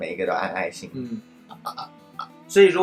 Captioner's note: burping